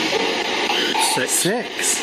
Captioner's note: SB7 chattering